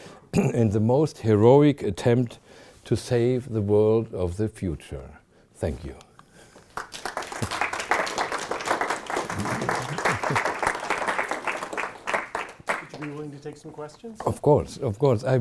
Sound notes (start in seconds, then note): 5.9 chuckling; 6.7 audience applauding